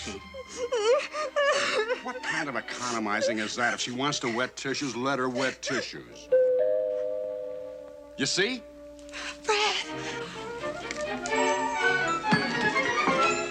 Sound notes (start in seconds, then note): 1.7 sobbing; 8.2 doorbell rings